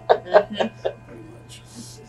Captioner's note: laughs